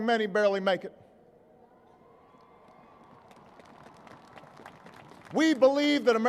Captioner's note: applause